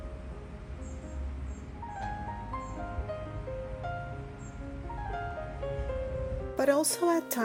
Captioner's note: instrumental music; nature sounds